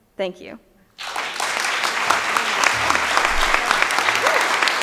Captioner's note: audience applauding